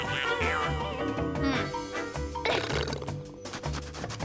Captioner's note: scratching; grunts